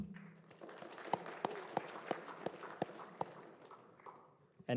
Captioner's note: applause